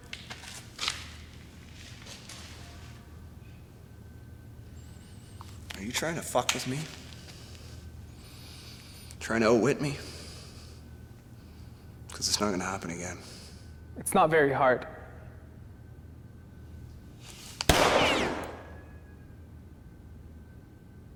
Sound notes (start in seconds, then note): 0.3 footsteps thumping; 17.6 gun firing